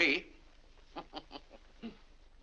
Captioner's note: chuckles; laughs